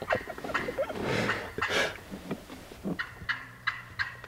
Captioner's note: laughing